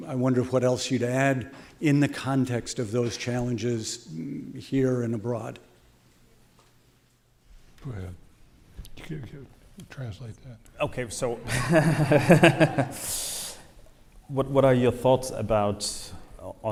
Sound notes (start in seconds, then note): 11.4 laughing